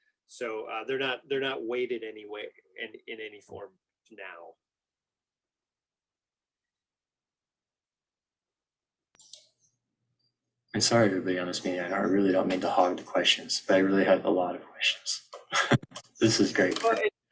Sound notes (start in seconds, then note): 15.4 chuckles